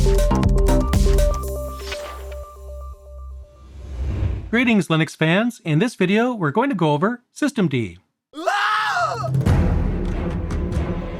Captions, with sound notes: Greetings Linux fans! In this video we're going to go over System D. [Screams]